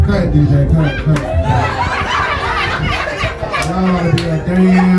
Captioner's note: audience laughing